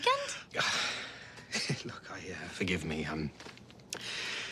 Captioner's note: sighs